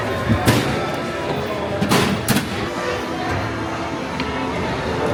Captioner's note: bar locking in